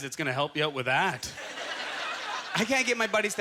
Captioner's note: audience laughter